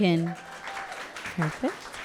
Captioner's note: audience clapping and cheering